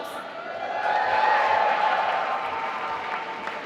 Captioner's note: applause